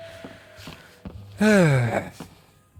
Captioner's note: sigh